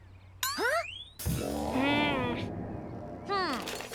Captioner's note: sour music; Lizbeth grumbling